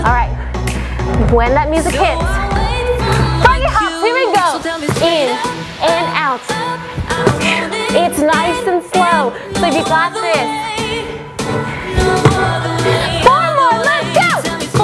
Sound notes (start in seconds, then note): 6.6 exhales